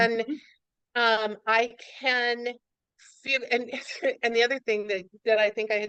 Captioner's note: laughs